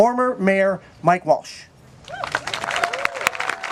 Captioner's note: clapping